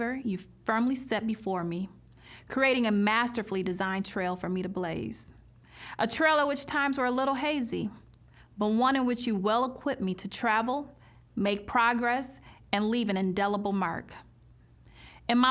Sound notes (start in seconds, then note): none